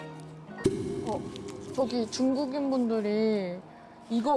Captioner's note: real-life situation sound effect